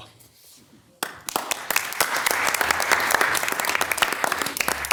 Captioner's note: all applauding